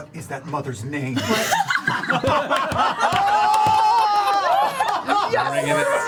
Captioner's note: laughter